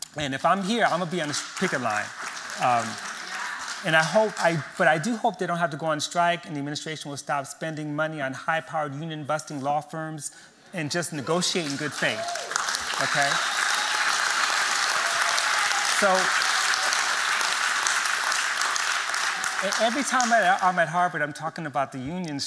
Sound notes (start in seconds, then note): 12.2 applause